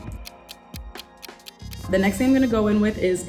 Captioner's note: clock ticking